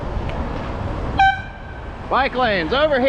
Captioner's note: honk